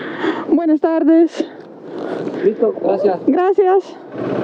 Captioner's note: in Spanish